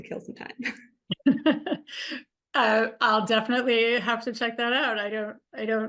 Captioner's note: chuckles; laughs